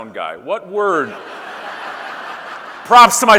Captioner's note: audience laughing